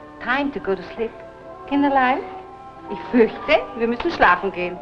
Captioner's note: foreign language